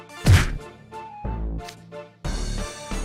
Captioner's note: bonk